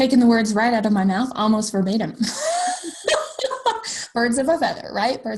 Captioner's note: laughs